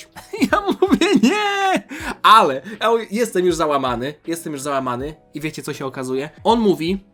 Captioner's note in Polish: śmiech